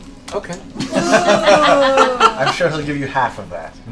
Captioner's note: laughter